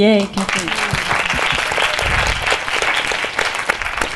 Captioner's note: applause